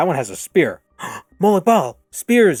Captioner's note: gasp